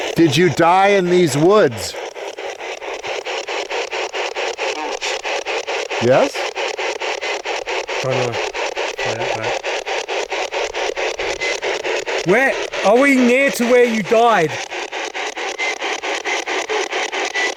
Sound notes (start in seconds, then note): 2.2 static ticking; 14.6 static ticking